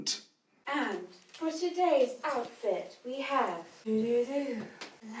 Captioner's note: hums